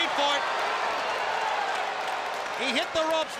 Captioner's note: crowd cheering